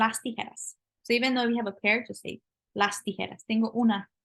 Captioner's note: speaking spanish